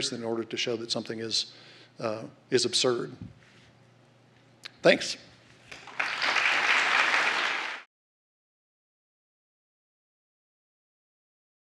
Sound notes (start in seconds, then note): 5.6 applause